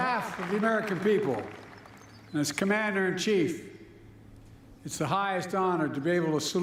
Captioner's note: applause